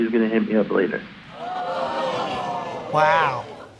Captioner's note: audience exclaims